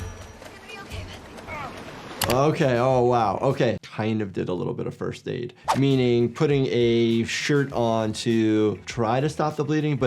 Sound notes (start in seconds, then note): none